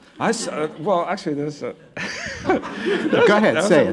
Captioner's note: laughs